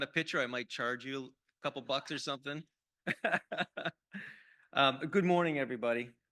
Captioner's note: laughs